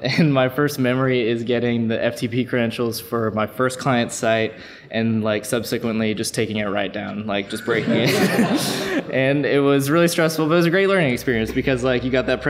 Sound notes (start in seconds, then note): 7.5 laughs